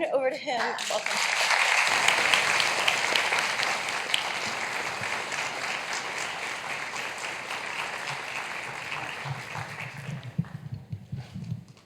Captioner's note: applause